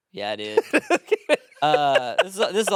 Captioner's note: laughing